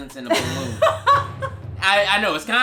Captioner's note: laughs